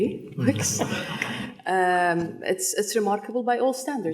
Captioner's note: people laughing